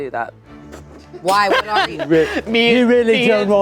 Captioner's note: laughing